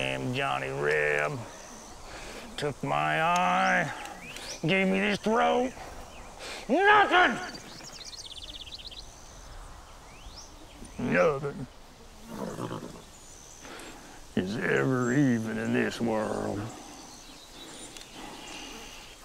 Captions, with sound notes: goddamn Johnny Reb, took my eye, and gave me this throw, nothing! Nothing, (horse snorts) is ever even in this world.